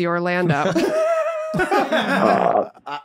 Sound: laughing

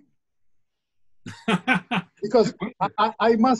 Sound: laughs

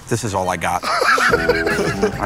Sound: laughter

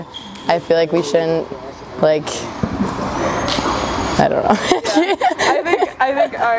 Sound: laughs

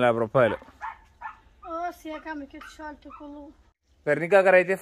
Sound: speaking in foreign language

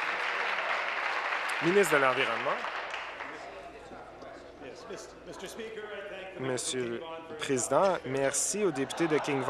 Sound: applause

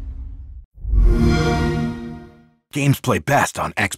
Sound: xbox sound

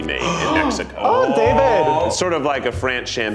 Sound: gasps

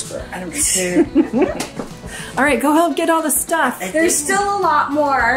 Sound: laughs

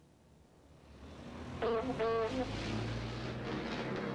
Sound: horns honking

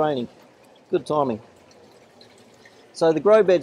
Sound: water burbling

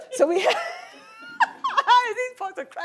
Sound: laughs

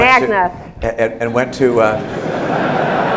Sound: laughter

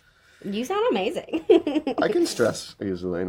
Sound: she laughs

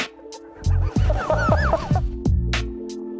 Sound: laughter

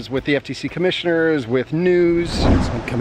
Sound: whoosh

